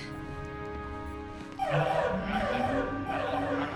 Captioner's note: alarm beeping